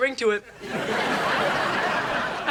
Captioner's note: audience laughing